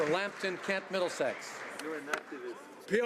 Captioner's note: some Applause